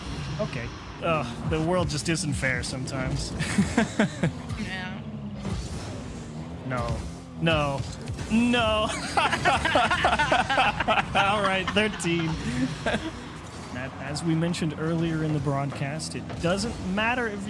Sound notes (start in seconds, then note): 8.8 laughter